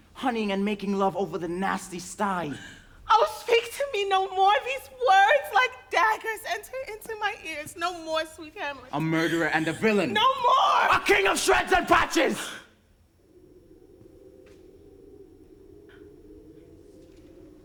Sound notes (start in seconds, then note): 13.4 wind howls